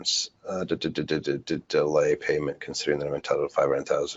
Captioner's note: stutters